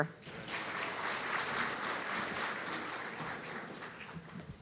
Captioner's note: audience applauding